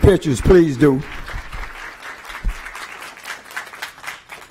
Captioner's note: applause